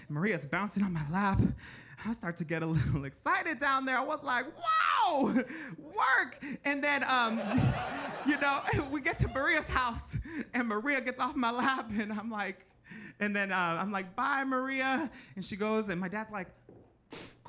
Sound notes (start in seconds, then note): 7.0 audience laughing